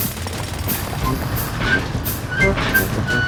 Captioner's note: drilling